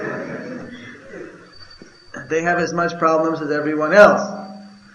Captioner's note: laughter